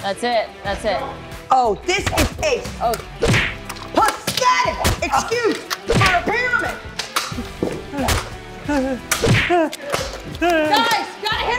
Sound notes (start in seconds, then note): 6.9 whimpers